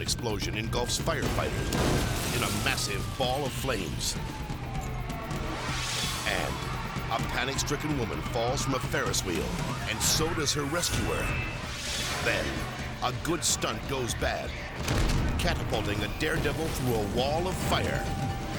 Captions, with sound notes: Plus, a sudden explosion engulfs firefighters in a massive ball of flames. (air whooshes) And a panic-stricken woman falls from a Ferris wheel, and so does her rescuer. (air whooshes) Then a good stunt goes bad, catapulting a daredevil through a wall of fire.